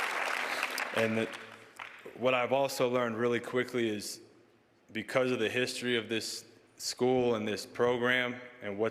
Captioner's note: cheers and applause